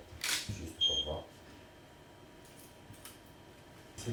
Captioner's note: camera clicking